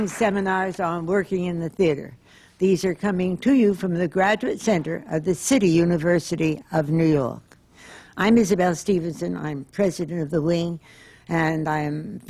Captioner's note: applause